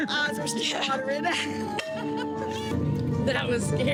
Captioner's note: women laughing